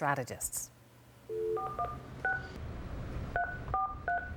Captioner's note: dial tone, dialling